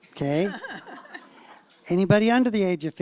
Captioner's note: laughter